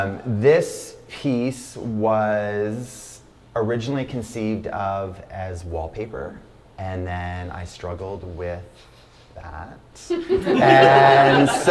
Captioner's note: laughter